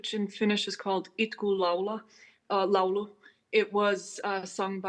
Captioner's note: speaking in foreign language